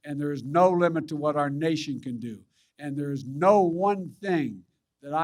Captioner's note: none